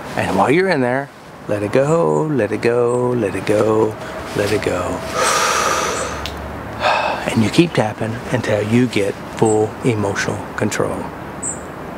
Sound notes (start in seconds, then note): 5.0 deep breath